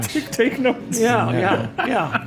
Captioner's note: laughs